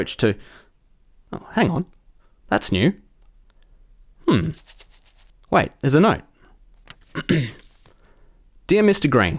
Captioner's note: cough